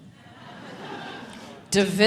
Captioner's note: audience laughing